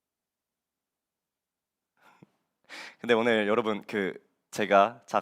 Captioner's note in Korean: none